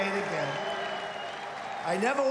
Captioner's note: applause